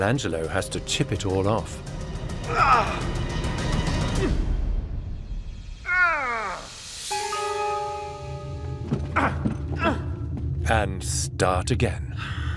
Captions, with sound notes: Michelangelo has to chip it all off... [dramatic music] [Michelangelo groans] ...and start again.